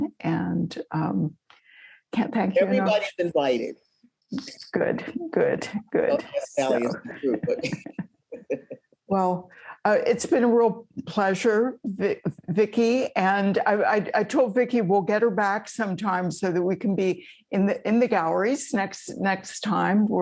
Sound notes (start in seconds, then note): 6.4 speaking faintly